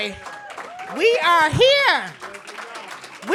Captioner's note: applause